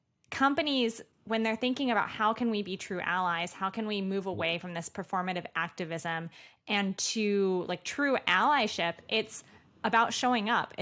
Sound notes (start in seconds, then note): none